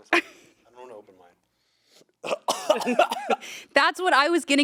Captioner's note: coughs